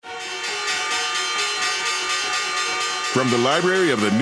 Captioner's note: ringing bell